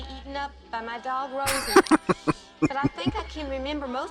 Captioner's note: chuckling